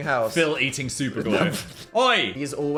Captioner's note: laughs